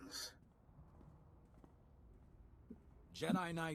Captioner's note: footsteps